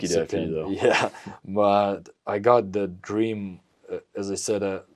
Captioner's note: laughs